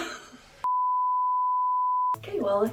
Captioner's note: electronic beeping